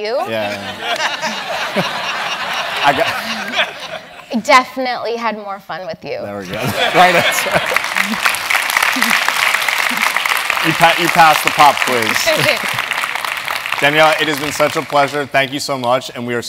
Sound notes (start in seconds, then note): 0.2 laugh; 6.5 laugh; 6.9 applause; 12.2 laugh